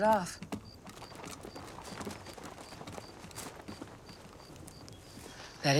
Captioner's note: birds chirping